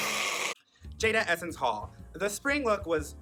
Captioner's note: blows nose